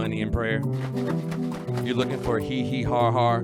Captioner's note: drink mixing sounds